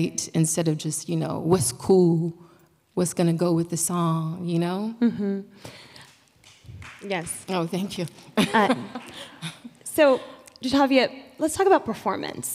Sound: clap

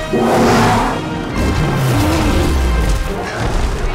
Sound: roars

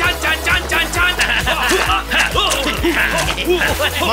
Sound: grunting

